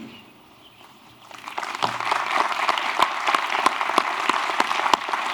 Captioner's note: applause